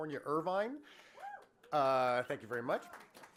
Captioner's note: cheering and applause from audience